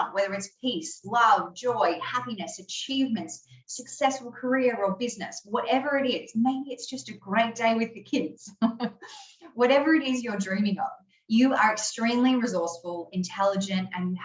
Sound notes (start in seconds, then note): 8.6 laughing